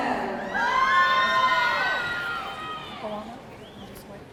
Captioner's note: audience cheering